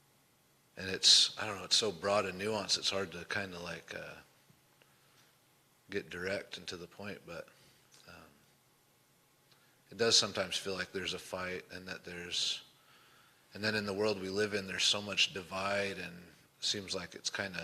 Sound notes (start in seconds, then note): none